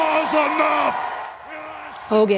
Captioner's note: cheering